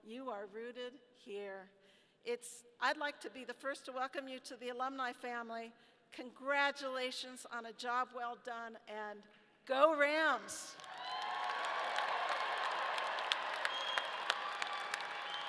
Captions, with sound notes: you are rooted here. I'd like to be the first to welcome you to the alumni family. Congratulations on a job well done, and go Rams! (audience cheering)